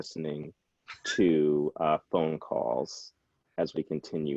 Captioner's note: chuckles